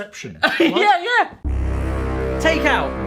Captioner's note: laughing